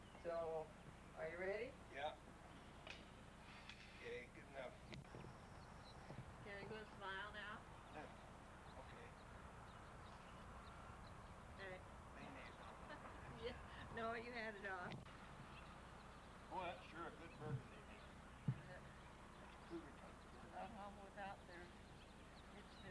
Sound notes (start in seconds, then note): 12.6 laughing